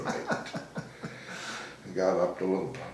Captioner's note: laughing